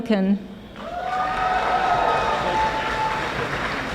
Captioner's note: audience applauding